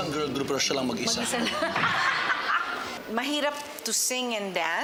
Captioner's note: laughs